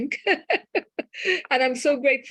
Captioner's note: laughter